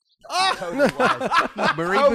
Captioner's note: laughing